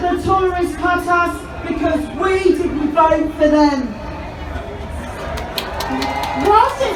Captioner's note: crowd cheers